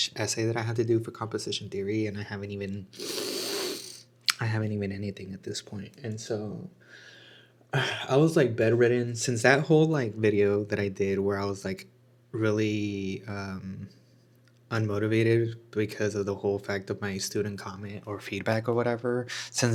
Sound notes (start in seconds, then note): 3.0 snorts; 7.0 sighs and gasps